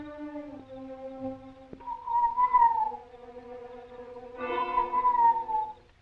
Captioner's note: whistling call